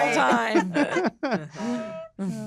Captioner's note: laughter